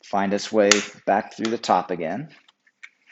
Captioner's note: rack snaps